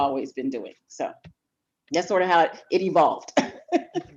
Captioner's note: laughs